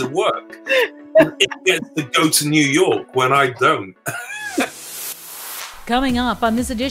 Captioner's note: laughs